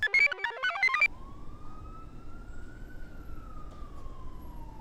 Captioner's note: computer chirps; siren wails